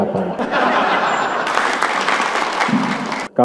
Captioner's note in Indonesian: tertawa, tepuk tangan